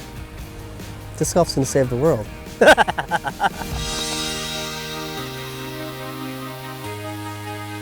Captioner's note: laughing